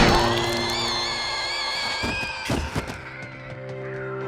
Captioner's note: shot firing; Mya shrieking